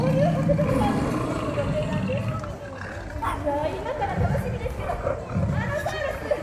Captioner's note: grunting